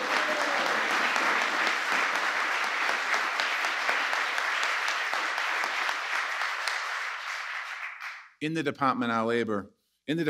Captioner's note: applause